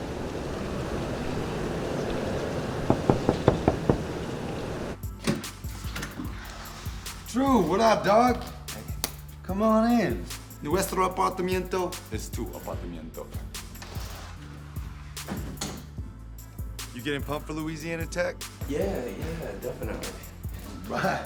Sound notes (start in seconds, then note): 2.8 knocking on door; 5.4 door rattling; 10.8 speaking foreign language